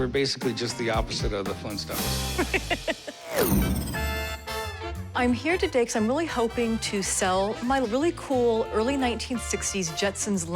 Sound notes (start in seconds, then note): 2.4 laughs